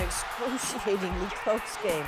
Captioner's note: cheers and Applause